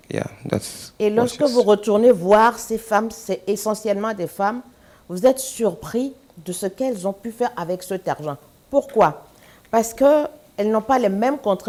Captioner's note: speaking french